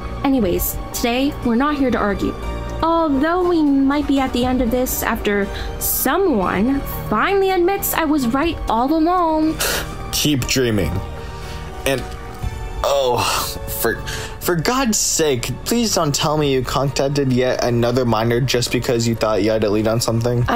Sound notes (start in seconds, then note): 9.9 chuckles